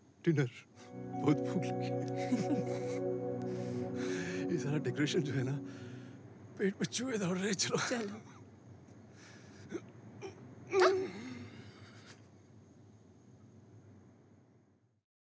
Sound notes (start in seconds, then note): 2.1 Both laughing; 10.1 Vikram grunts